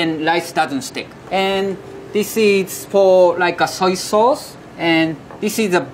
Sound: text chiming

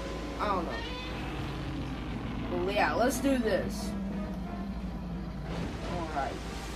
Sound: roars

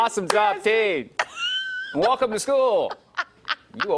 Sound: laughter

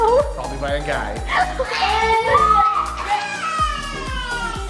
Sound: screaming

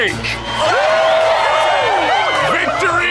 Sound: cheering

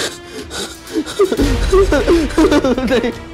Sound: sobbing uncontrollably

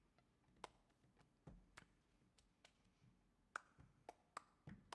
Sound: clapping rhythmically

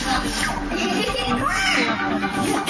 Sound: giggles

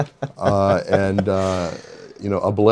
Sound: laughs

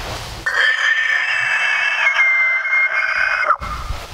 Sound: imitates elk bugle

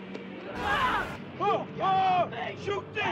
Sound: yelling

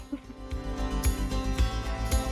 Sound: giggle

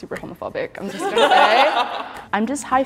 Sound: everyone laughing

